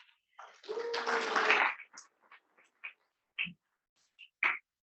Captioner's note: students clapping